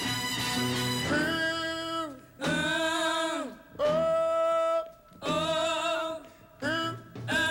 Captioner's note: echoing sounds